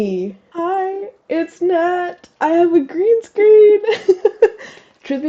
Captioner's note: laugh